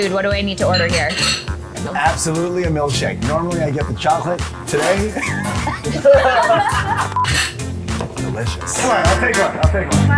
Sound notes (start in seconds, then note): 5.0 laughing; 7.1 beep